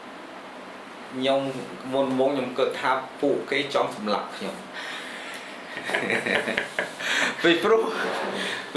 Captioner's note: laughs